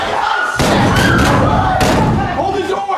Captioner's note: door slams